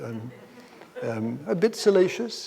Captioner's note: audience members laugh